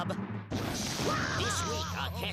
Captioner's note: Daffy screaming